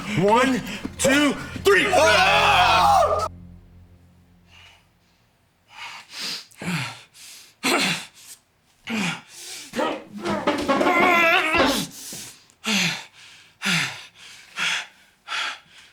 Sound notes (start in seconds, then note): 1.9 Brown and Anderson yelling; 6.3 nazi groaning; 9.7 nazi grunting; 12.6 nazi huffing